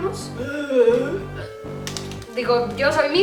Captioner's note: zombie grunts